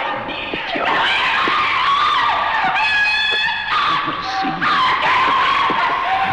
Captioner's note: Diane screaming